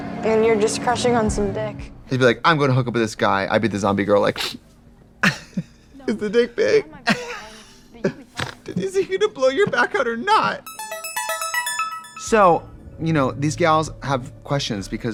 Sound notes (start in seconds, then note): 4.3 sniffling; 6.6 Katya laughing; 6.6 Katya giggles; 10.6 bright electronic music